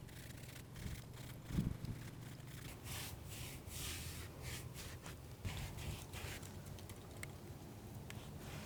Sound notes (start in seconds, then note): 3.3 brushing